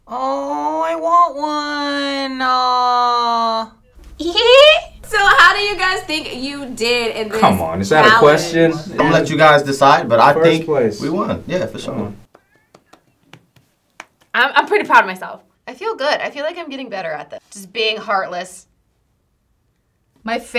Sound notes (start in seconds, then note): 4.1 imitates cat chattering